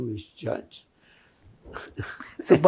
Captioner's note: laughing